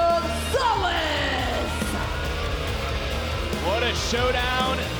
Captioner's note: crowd booing